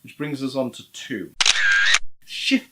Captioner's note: camera shutter clicks